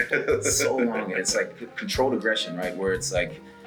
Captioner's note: laugh